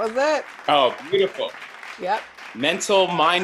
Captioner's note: applause